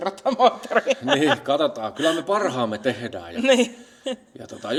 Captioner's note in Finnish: naurua